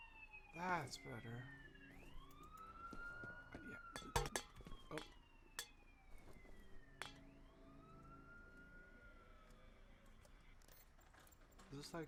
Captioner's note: can clinks